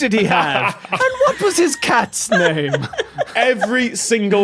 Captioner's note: others laughing